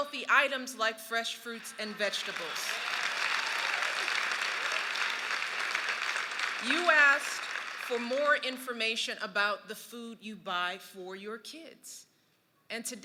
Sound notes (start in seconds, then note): 1.5 cheers and applause